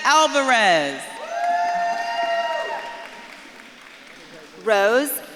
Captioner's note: audience claps and cheers